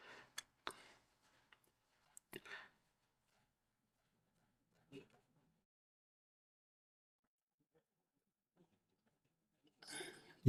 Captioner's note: silence